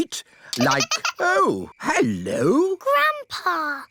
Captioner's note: giggling